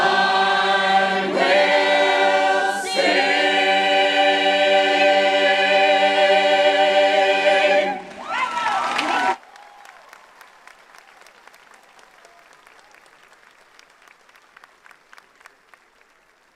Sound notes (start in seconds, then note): 7.8 audience cheers; 8.0 audience applauds